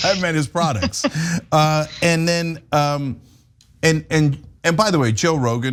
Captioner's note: laugh